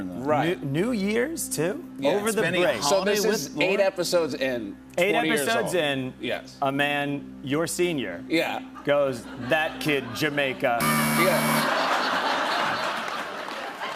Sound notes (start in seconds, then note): 10.8 buzzer; 11.4 laughter